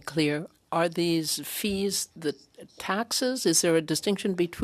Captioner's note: speaking French